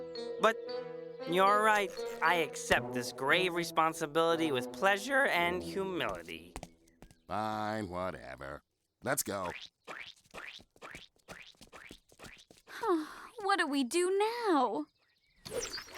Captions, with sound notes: YOU'RE RIGHT. I ACCEPT THIS GRAVE RESPONSIBILITY WITH PLEASURE AND HUMILITY. FINE. WHATEVER. LET'S GO. [SIGH] WHAT DO WE DO NOW?!